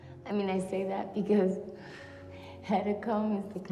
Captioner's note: exhales